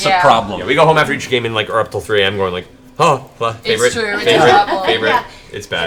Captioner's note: gasp